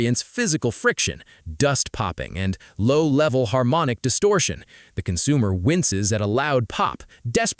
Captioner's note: low-level harmonic distortion